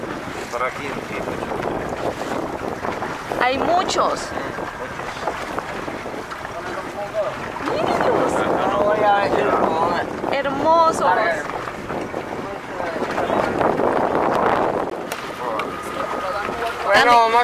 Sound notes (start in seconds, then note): 4.8 waves noise